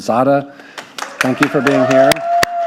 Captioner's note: clapping; audience applauding